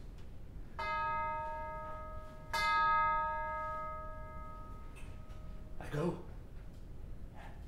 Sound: bell dings

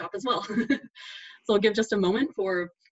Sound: laughs

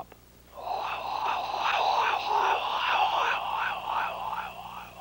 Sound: imitates engine

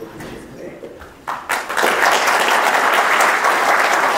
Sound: applause

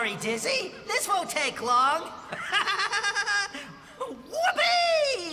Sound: laughing

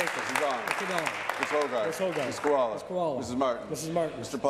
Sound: applause

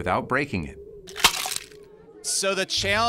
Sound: egg splat

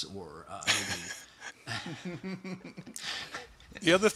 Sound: laughter

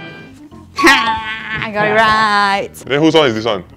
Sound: squeals

